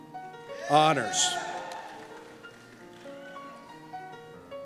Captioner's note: cheers